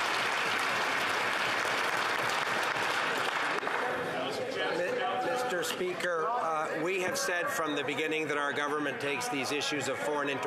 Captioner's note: some Applause